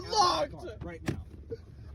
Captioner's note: mumbles